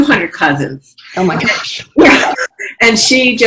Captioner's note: laughs